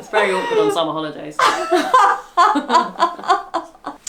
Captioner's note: laughs